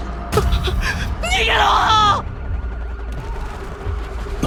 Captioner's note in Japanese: 叫び声